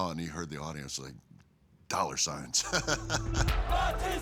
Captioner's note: laugh